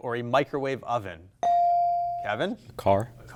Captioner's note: buzzer chimes